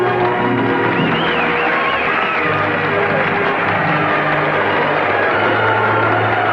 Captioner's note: crowd cheering; triumphant music